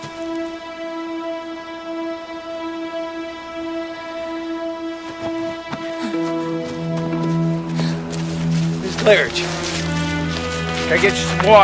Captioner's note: muffled Sobs